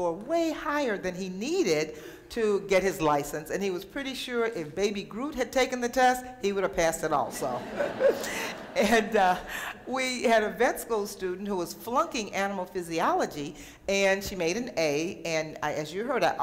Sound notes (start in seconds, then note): 7.3 laughter